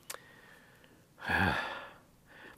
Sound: big sigh

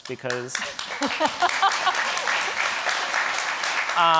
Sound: audience applauding

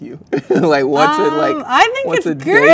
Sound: laughs

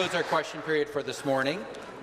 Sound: applause

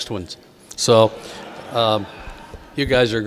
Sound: audience laughing

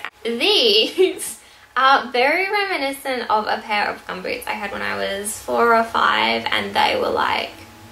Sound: laughs

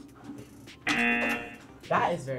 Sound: buzzer

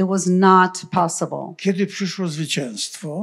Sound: foreign language

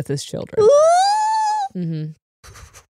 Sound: shrieks

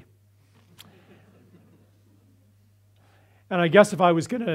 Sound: audience laughs

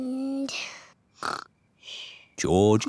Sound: snores

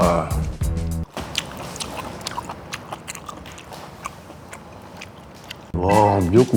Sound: chewing ASMR

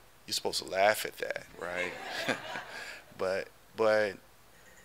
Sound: audience laughing

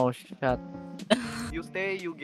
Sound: omg ass sigh

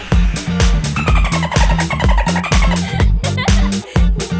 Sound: disco music; dolphin squeaking; laughing

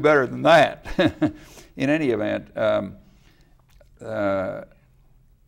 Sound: laughs

